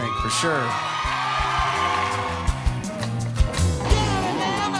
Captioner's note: audience cheering